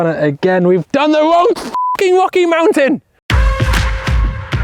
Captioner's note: beep; upbeat music